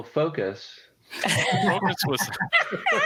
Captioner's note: laughter